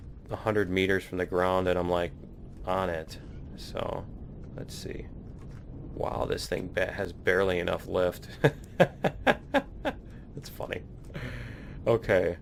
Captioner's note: laughs